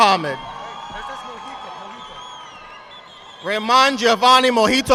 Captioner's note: audience applauding